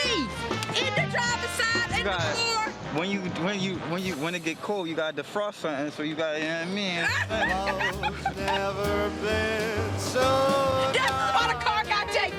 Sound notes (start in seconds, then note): 7.0 laughter